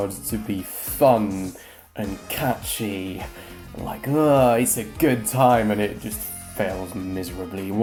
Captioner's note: feigned enthusiastic sound